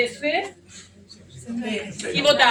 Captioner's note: audience whispering